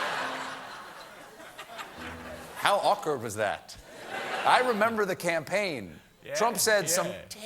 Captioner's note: laughter